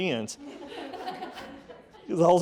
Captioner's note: audience laughing